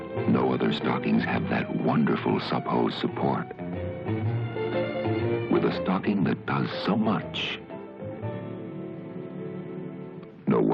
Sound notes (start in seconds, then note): none